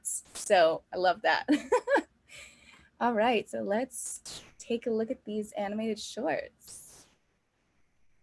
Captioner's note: laughs